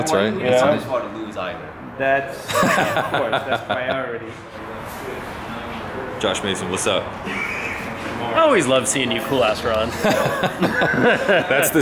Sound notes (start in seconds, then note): 2.4 laughs; 9.9 both laugh